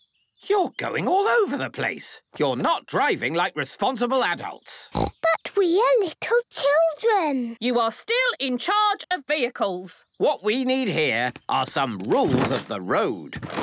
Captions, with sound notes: You're going all over the place. You're not driving like responsible adults. (snorting) - But we are little children. - You are still in charge of vehicles. - What we need here are some rules of the road.